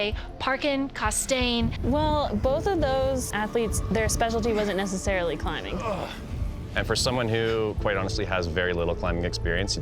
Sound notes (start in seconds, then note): 5.5 breathing heavy